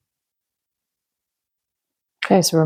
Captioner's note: silence